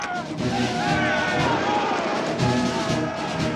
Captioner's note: yelling